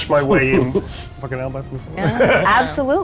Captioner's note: laughs; laughs